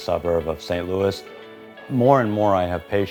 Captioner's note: doctor and nurse chatting